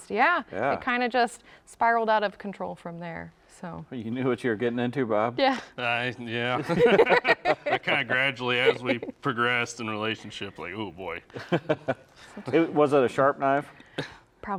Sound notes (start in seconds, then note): 6.5 all laughing; 11.3 chuckles